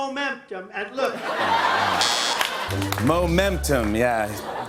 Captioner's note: laughter; buzzer, sad notes play